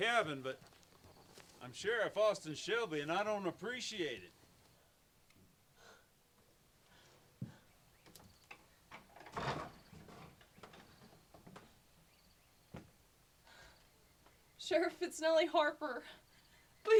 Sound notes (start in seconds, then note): 8.8 door creaks